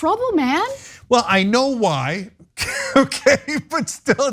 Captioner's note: laugh